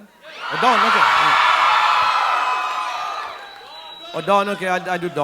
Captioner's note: audience cheering